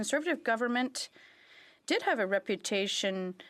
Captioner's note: speaking in French